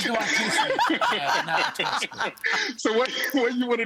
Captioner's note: laughter